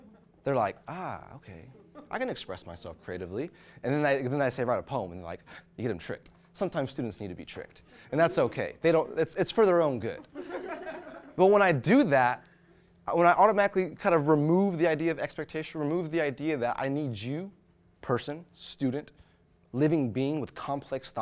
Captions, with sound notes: they're like, "Ah, okay, I can express myself creatively." Then I say write a poem and they're like, you get them tricked. Sometimes students need to be tricked. And that's okay, it's for their own good. (audience laughs) But when I do that, when I automatically kind of remove the idea of expectation, remove the idea that I need you, person, student, living being with complex